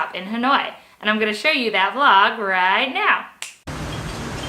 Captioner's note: snap